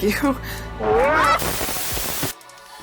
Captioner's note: Wug roars and Engineer screams